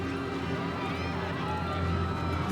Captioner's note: cries of panic